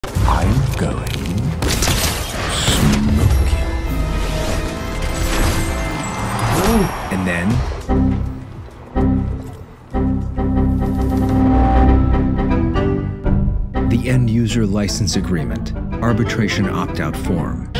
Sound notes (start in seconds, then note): 7.8 Windows Error; 9.9 Many Windows Errors